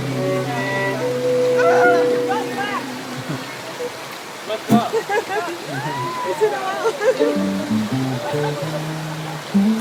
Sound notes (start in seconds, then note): 1.5 screams and laughs